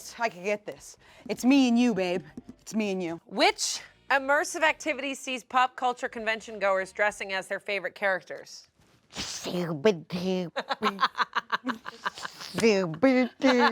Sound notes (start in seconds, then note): 9.6 jabbers; 10.5 laughs